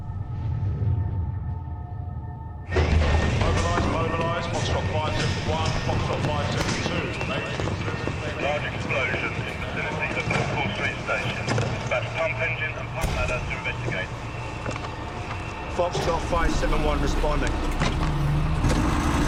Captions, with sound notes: (man over P.A.) Mobilize, mobilize. Foxtrot 571, Foxtrot 572. There's a major incident... (man over radio) A large explosion in the vicinity of Liverpool Street station. Dispatch pump engines to investigate. Foxtrot 571 responding.